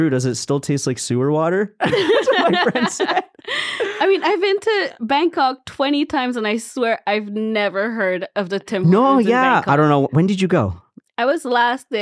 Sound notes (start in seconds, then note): 1.8 all laughing